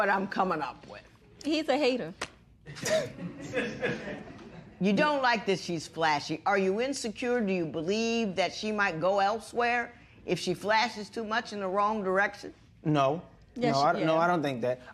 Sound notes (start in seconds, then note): 2.7 laughter